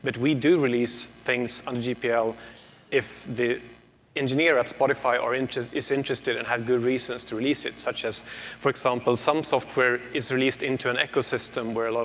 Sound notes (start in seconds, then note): none